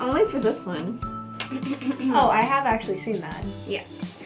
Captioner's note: clears throat